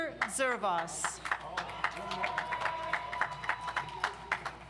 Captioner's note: audience applauds